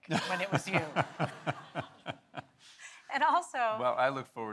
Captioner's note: Michael laughs